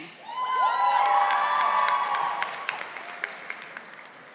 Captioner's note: audience applauding